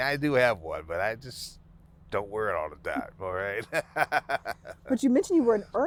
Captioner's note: laughing